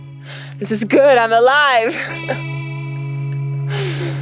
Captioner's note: laughs